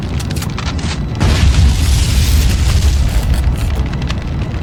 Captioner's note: gun clicks; explosion booms